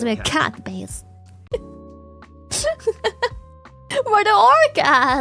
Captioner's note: laughs